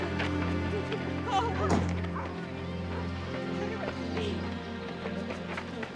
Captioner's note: families chattering; melancholy music